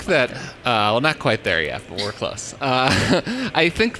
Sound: laughs

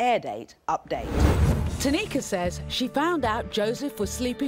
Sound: voiceover

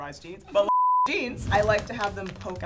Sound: beep

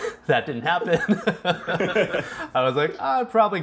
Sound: chuckles; laughs

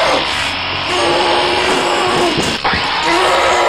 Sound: grunting

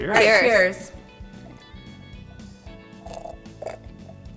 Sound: glass clanks; slurps

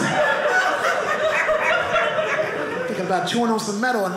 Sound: audience laughing

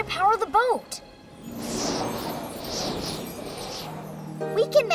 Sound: wind blowing

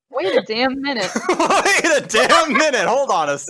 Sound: laughs

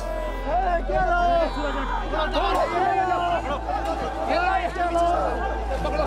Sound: shouting in foreign language

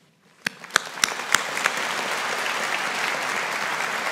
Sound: audience applauding

